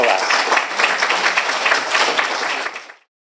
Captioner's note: applause